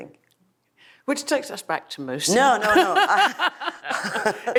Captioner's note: laughs